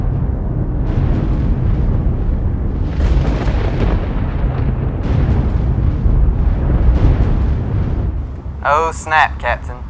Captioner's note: thunder rolling